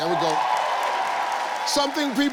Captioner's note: audience clapping